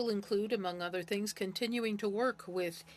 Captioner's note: speaking French